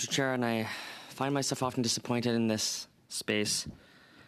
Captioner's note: speaking in french